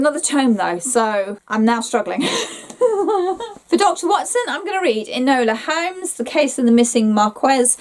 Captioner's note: giggles